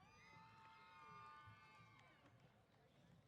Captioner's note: cheers